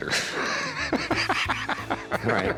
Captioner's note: laugh